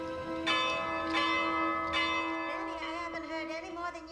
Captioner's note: bell chimes